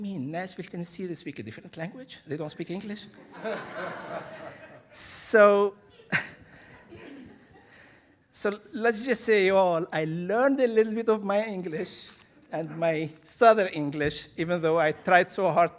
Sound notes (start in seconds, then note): 3.2 audience laughing; 6.0 chuckles